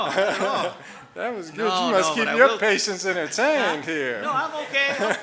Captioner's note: audience laughing